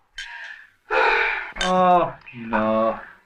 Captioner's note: sighs